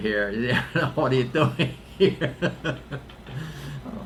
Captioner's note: laughs